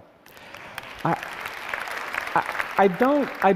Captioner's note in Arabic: تصفيق